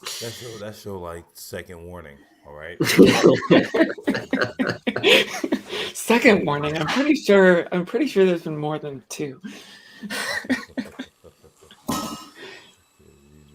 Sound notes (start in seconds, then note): 2.8 laughter